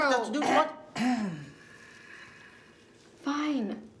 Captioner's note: Ernestine clears throat